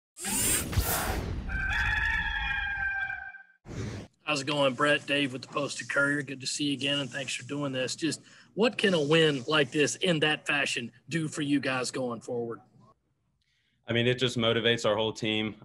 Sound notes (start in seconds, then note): 1.4 rooster crows